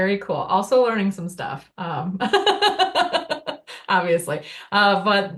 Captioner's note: laughing